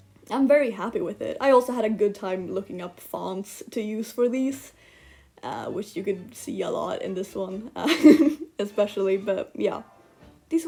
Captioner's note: laugh